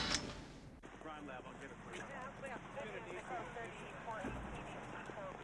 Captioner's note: policemen chattering